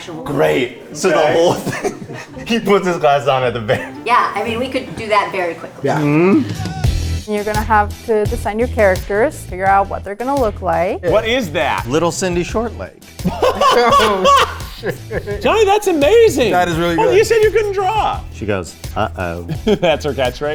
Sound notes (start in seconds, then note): 1.2 laughs; 6.7 upbeat music; 13.2 laughs